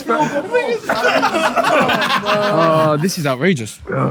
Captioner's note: people in room laughing